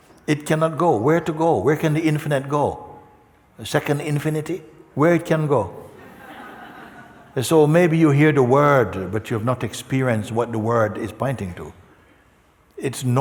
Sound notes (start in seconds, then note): 5.9 laughter